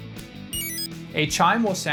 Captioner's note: exit chime